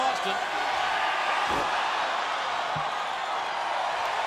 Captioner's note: crowd cheers